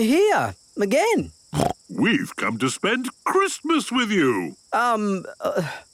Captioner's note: snorting